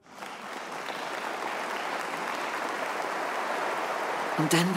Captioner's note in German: Applaus